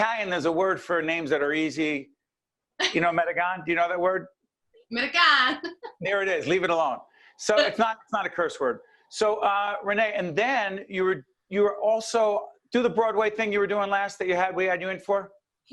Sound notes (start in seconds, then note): 5.8 laughing